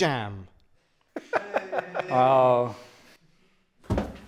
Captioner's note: they lightly cheer